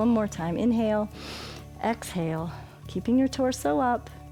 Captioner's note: inhales